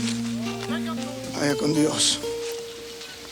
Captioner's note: body thumps; Crecencio speaks Spanish